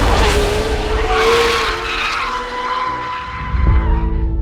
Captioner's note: tires screeching